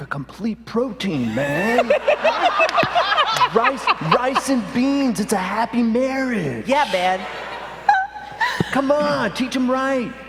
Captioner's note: nasally